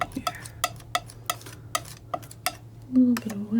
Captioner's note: tapping